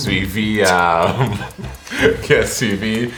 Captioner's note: laughter